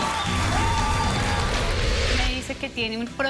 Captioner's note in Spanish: aplausos